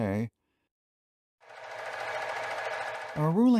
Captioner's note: projector sound